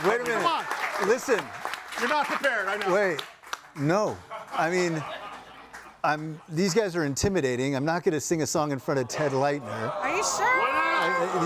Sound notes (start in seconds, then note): 3.4 audience applauding; 4.3 audience laughing